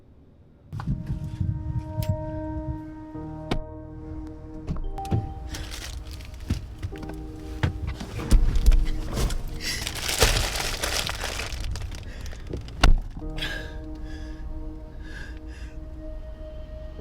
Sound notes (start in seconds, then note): 0.5 dramatic music; 0.5 material rustling; 9.5 dramatic music continues; 9.5 paper rustling; 13.4 Abby sniffling